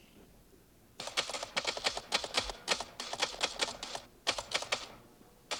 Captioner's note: typewriter keys clacking